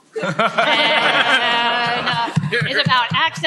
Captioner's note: laughter